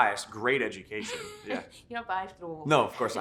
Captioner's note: chuckles